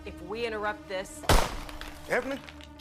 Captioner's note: gunshot pops; ceiling crumbles